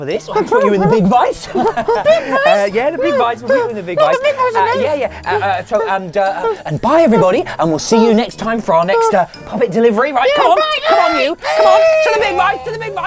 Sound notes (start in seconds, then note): 4.3 whimpers; 10.8 shrieks